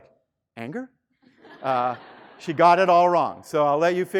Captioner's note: student laughing